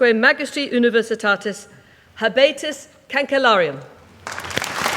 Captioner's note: applause